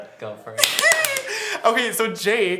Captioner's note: clapping